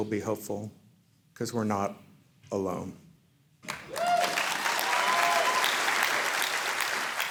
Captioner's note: audience cheering